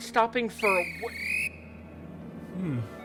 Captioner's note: guard whistles